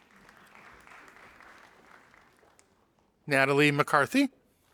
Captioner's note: audience applauding